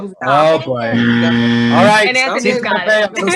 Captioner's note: loud buzzer